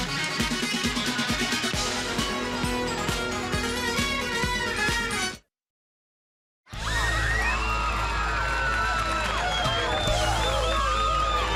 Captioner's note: crowd cheering